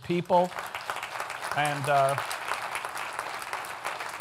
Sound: audience applauds

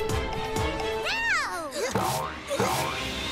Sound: grunting

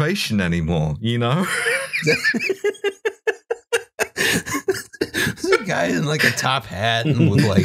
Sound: laughter

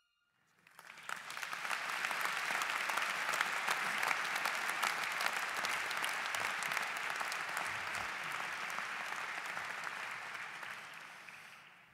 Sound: applause

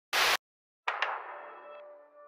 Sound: TV static

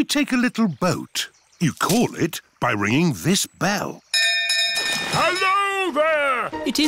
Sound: none

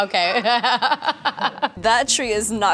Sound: laughs nervously

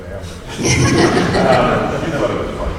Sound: laughing

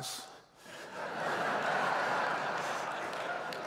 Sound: laughter

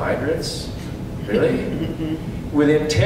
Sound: knowing chuckles from audience

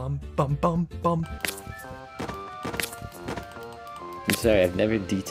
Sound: gameplay sounds

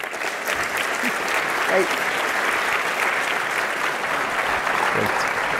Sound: applause

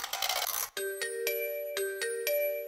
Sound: music box winding

